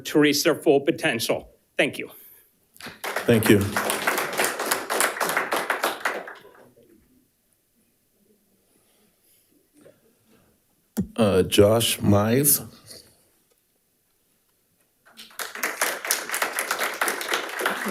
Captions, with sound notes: to reach their full potential, thank you. (audience applauding) - Thank you. Josh Mize. (audience applauding)